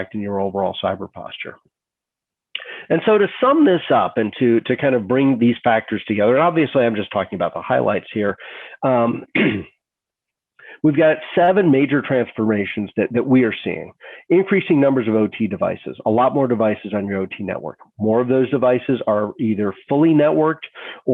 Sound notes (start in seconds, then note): 9.0 clears throat